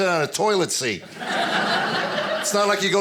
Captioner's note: audience laughing